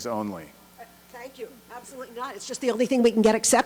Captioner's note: voiceover